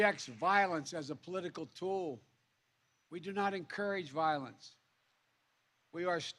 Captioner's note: applse